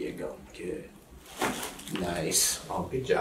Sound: cracking

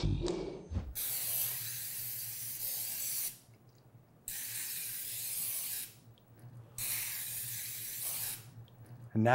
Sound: aerosol spray

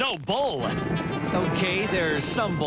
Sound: stampeding cattle hooves and mooing

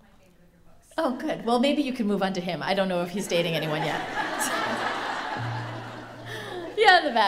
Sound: laughter

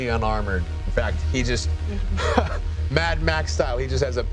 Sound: laughs

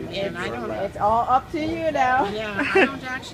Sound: laughs

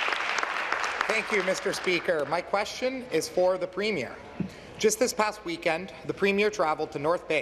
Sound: applause

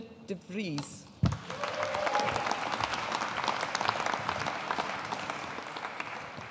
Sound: audience applauding

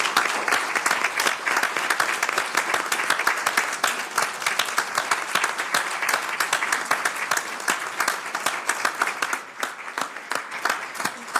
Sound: applause

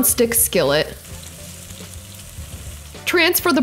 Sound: bacon sizzling

